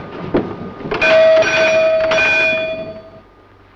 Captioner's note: rings bell